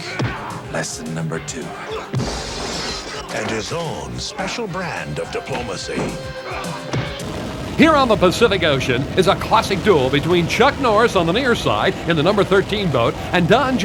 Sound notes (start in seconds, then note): 1.7 glass shatters